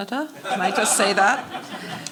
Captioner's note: laugh